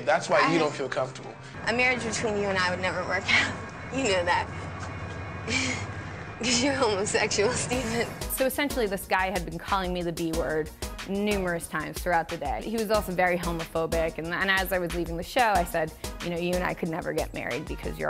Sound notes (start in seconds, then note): 5.4 laughs